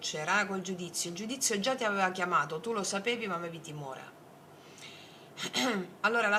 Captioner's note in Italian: schiarire la voce